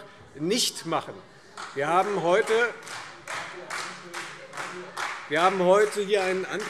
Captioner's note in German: Beifall Freie Demokraten